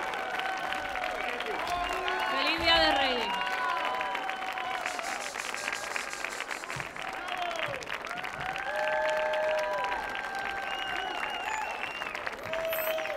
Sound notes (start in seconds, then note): 0.2 audience cheers; 0.2 audience clapping; 2.3 woman speaking in Spanish